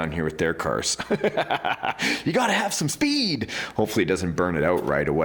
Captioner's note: chuckling